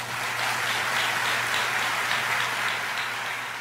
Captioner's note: applause